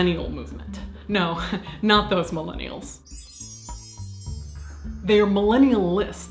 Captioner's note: magical chimes